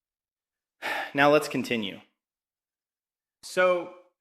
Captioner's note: exhales